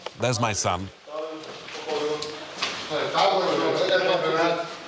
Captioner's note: Arabic spoken audio